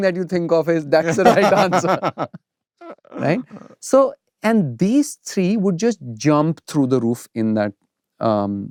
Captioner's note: laughter